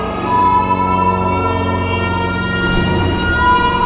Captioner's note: sonar pinging as signals are detected